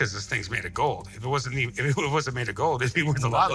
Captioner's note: stammers